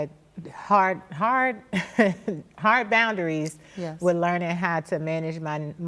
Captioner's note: laughs